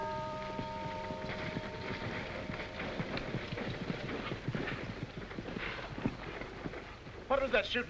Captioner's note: horse and rider approaching